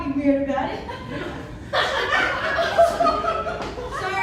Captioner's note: laughter